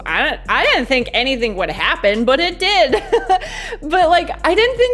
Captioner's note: laughs